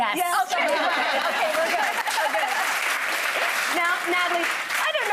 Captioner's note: audience applauding